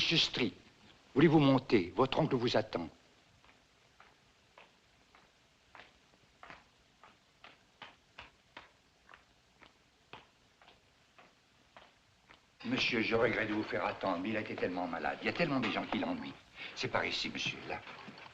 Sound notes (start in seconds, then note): 0.8 man Speaking French; 12.1 French